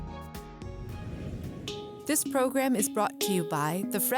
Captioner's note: title whooshing